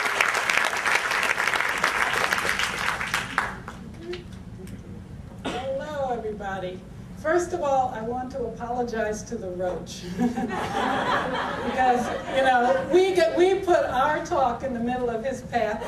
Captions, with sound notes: Well, well, everybody. First of all, I want to apologize to the roach. (audience laughter) because, you know, we...we put our talk in the middle of his path,